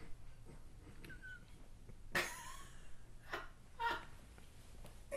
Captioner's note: laughing